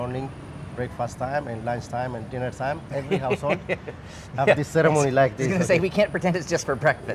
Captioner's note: laughing